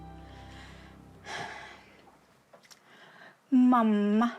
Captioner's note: exhales